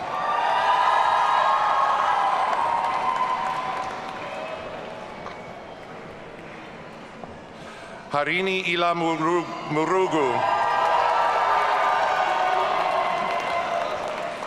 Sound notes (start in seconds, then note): 0.0 audience cheering; 9.1 audience cheering